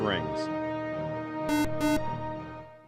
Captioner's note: beep